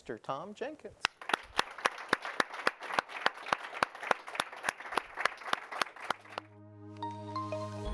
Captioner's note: applause